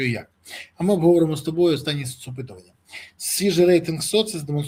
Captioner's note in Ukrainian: сопіння